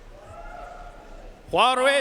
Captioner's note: audience cheering and applauding